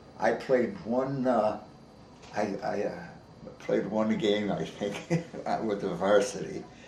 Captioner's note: chuckles